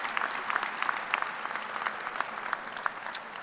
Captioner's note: applause